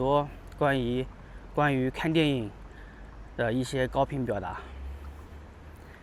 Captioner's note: 英语; 英语